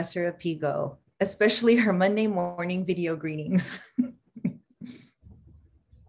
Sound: chuckles

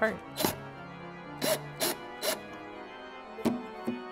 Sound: electrical drill whirring; thumb piano playing

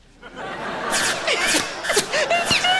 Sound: laughing

